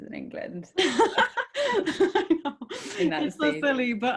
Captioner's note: laughing